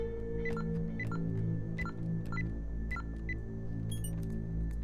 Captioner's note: ominous music; keypad beeping